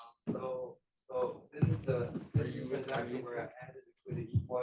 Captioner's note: student speaking faintly